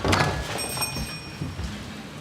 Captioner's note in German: Klingeln